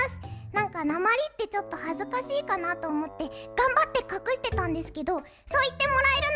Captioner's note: Soapland accent